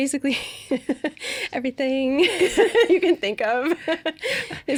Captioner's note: laughing